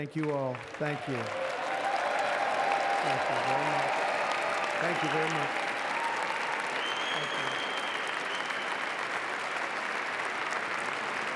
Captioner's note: applause